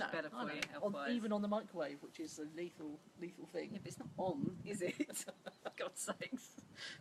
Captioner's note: laughs